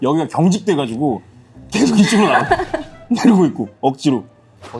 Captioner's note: haha